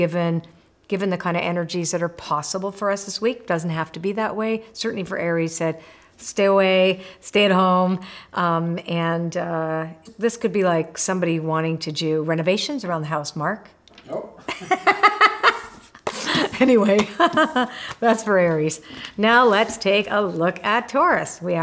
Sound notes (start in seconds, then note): 14.4 laughs